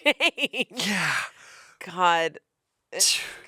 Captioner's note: laughs; grunts